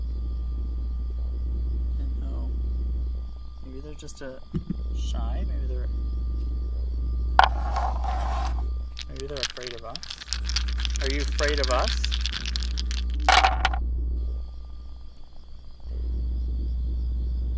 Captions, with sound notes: Maybe they're just shy, maybe they're afraid of us. (dice rattling) Are you afraid of us? (dice thumping)